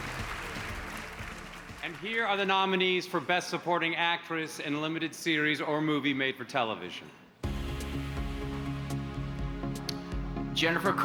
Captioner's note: applause